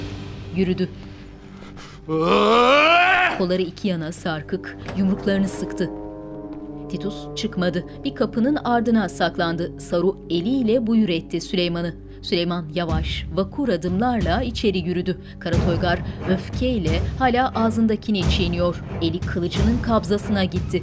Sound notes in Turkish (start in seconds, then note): 2.1 Bağırma sesi; 4.6 Kapı açılma sesi; 15.0 Müzik - Vurmalılar ve yaylılar